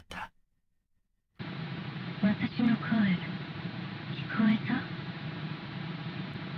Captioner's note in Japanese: 粗いノイズ混じりの音声